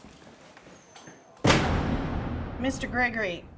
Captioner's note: metal door clanging